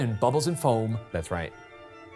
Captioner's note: none